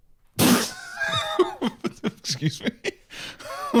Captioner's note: laughing